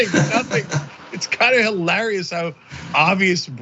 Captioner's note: laugh